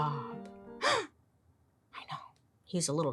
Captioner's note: gasps